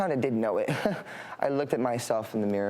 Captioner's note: laughs